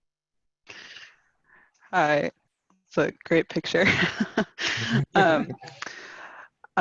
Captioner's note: chuckles